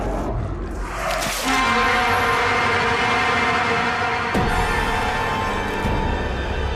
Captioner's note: sudden ominous music; monster growling